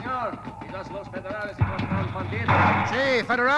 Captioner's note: speaking Spanish